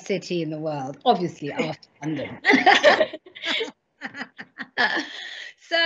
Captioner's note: both laughing